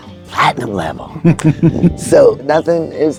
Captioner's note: laughing